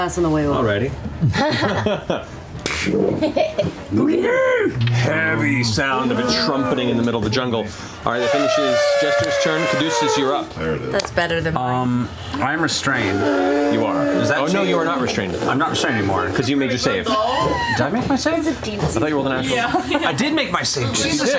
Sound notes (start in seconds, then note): 2.8 slapping; 5.9 trumpets; 8.1 mouth trumpet